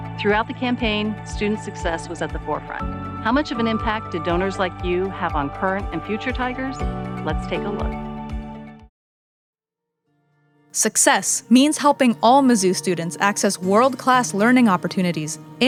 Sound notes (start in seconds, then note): 10.8 voiceover